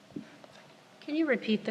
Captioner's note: whispering